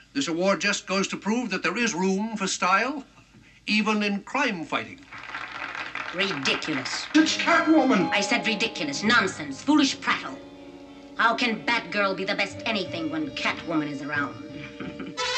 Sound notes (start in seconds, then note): 5.0 audience applauds; 14.5 chuckles